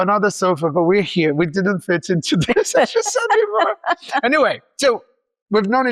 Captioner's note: laughs